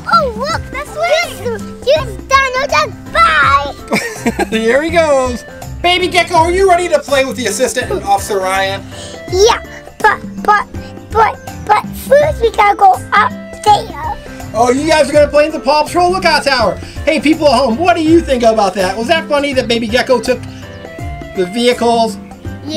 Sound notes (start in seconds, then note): 3.8 laughter